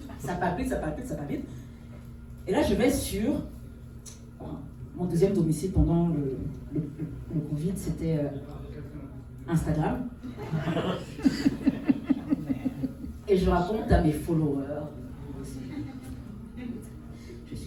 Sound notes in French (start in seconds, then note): 10.2 rires; 15.5 rires